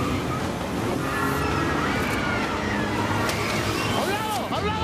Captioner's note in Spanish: Gritos